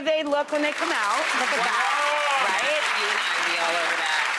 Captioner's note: applause